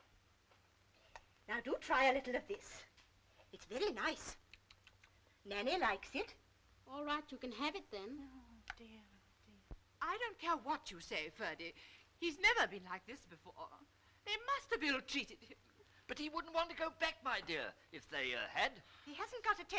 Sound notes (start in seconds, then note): 4.4 lips smacking